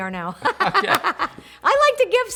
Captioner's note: giggles